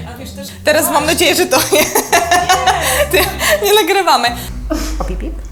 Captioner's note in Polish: śmiech